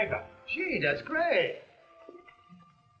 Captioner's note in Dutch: none